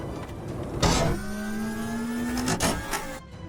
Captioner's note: door opening sounds